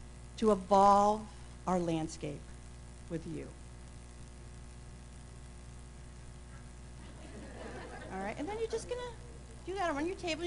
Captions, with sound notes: to evolve a landscape with you. [laughter ] >> All right? And then you're just going to do that around you table,